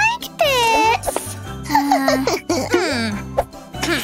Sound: making happy sounds; grumbles

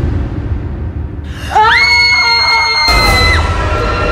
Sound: screams

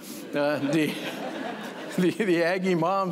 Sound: laughter

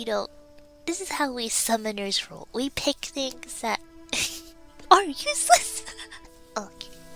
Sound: laughs

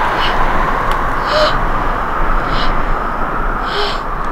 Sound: gasping

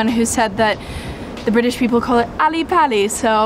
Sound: in British accent

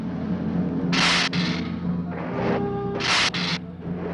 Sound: hissing

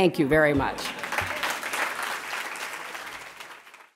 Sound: applause

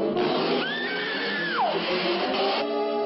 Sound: screams

